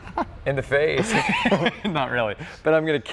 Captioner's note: laughs; both laugh